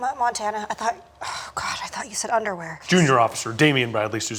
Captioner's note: stammering